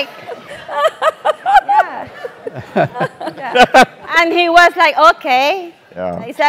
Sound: laugh

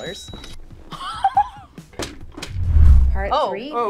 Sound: laughs

